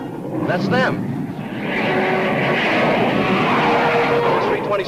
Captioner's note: plane engines roaring